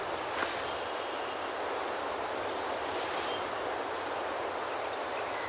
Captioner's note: birds chirping